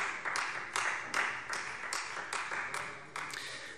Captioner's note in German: Beifall Freie Demokraten